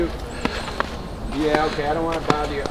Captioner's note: homeless person chattering quietly